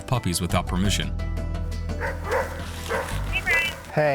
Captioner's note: dog barking